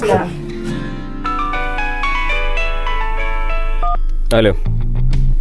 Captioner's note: phone rining